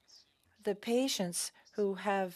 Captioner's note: speaking French